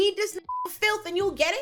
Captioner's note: beep